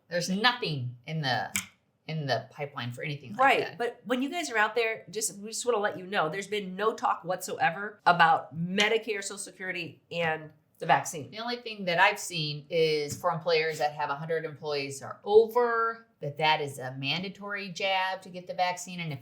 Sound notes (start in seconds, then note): none